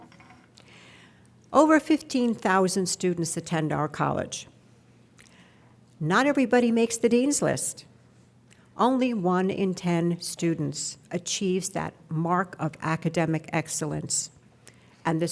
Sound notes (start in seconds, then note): none